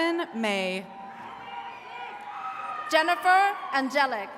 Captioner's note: attendees cheering